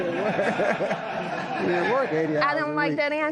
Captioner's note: laughter